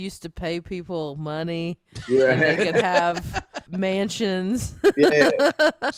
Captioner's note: laughs